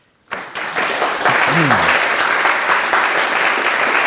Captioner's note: audience clapping